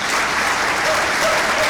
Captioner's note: clapping